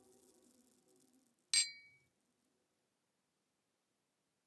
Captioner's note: glasses tinkling